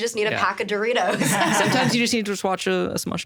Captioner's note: everyone laughing